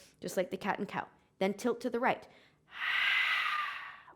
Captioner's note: exhaling